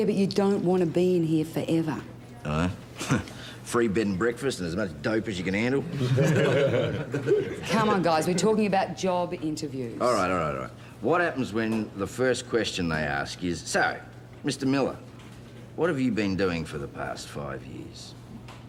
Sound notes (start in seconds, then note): 6.0 all laugh